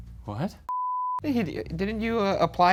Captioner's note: beeps